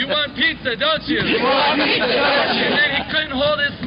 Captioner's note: laughing